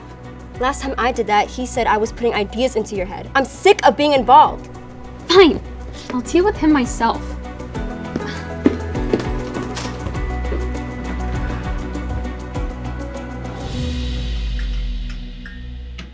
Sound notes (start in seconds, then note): 6.9 dramatic upbeat music; 8.0 feet thumping